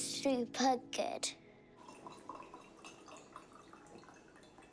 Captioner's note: water pours